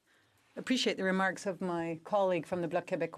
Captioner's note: speaking French